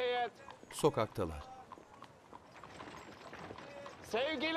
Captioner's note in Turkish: Ayak sesi